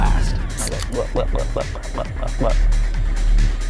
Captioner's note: glug glug glug glug